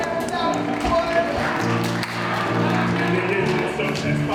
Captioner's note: applause